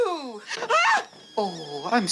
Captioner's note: scream